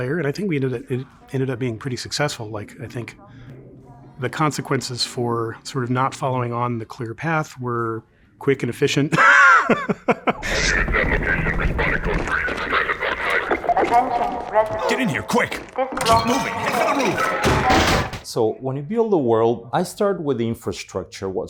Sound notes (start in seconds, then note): 9.1 chuckles; 10.4 chatter over radio